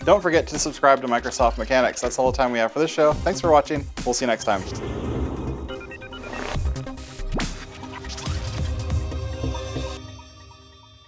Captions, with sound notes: don't forget to subscribe to Microsoft Mechanics. That's all the time we have for this show. Thanks for watching. We'll see ya next time. (air whooshes) (electronic music)